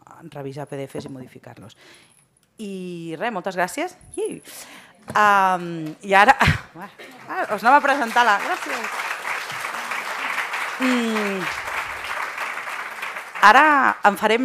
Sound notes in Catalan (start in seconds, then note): 4.5 soroll imitant la imatge; 10.4 aplaudiments